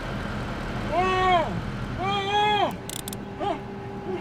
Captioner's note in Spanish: Gritos ahogados